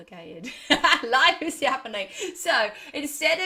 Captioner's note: laughs